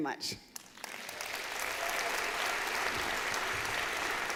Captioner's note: applause